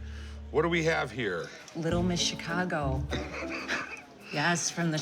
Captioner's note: laughs